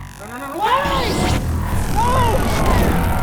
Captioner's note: zapping